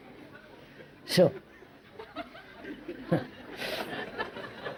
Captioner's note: laughs